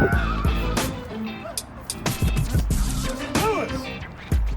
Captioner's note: customer yells